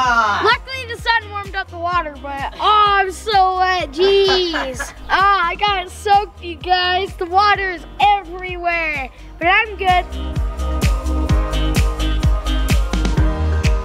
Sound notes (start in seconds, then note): 4.0 laughing; 10.3 lively music